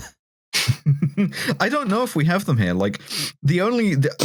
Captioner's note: chuckles